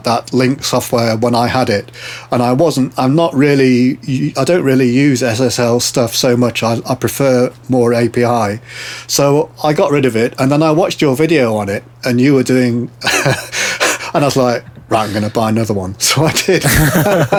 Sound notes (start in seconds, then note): 13.0 both laughing